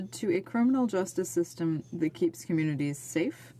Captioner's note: speaking French